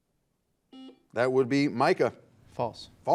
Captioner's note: buzzer beeping